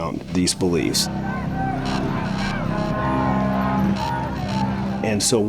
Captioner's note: crowd chanting